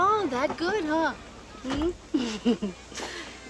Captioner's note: laughs